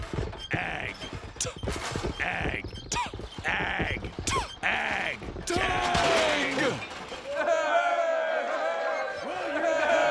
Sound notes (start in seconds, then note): 7.2 cheering